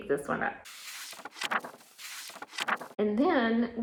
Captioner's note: pages turning